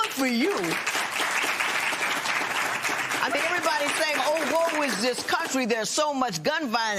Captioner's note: applause